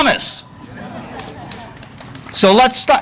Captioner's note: audience laughing